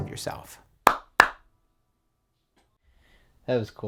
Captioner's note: claps